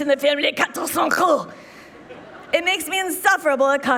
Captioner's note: Rachel speaking French